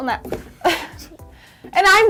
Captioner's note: laughing